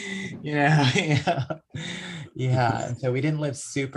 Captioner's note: laughs